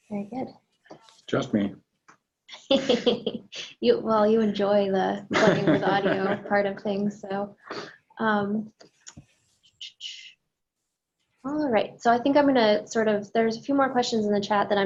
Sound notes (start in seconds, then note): 2.6 laughs; 5.3 laughs